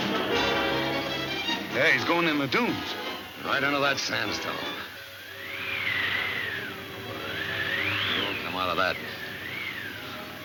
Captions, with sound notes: - Yeah, he's going in the dunes. - Right into that sandstorm. (wind whistling) He won't come out of that.